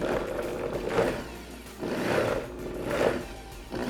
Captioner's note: blender whirring